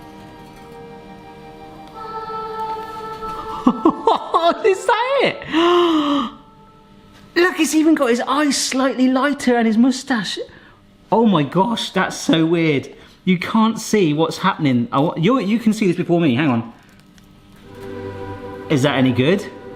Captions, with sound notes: (angelic music) (laughs) Is that it? (gasps) Look, it's even got his eyes slightly lighter and his moustache. Oh my gosh, that's so weird. You can't see what's happening. You can see this before me, hang on. Is that any good?